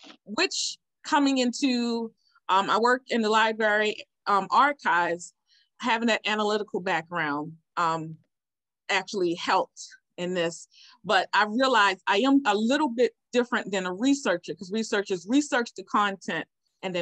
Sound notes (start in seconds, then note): none